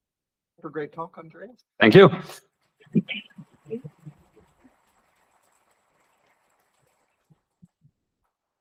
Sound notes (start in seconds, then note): 3.0 applause